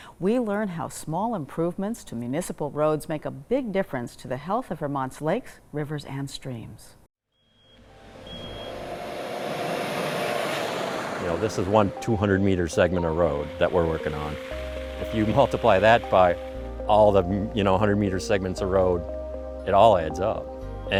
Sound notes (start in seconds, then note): 8.5 truck rumbling